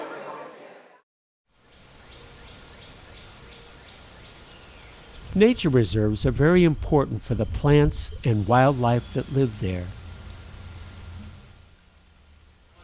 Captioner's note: birds singing